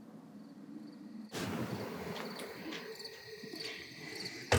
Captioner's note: crickets chirp, wind blows